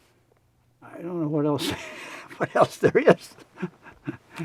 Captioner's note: laughs